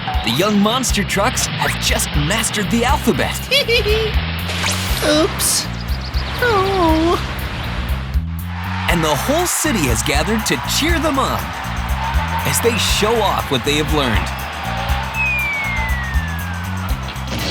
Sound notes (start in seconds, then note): 3.2 giggling; 8.7 cheering; 14.9 cheering